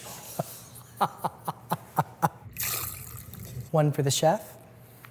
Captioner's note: laughs